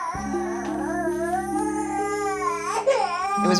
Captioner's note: whining